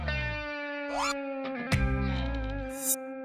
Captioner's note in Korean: 스윽